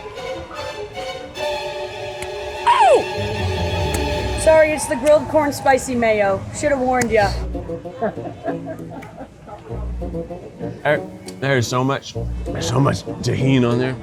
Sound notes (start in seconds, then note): 0.0 frantic music; 7.9 chuckles; 9.0 playful music